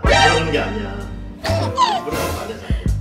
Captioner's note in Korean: 헤헿